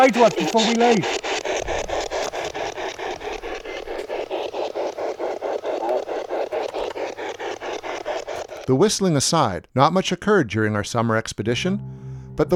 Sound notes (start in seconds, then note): 1.2 static ticking